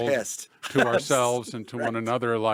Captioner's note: laughs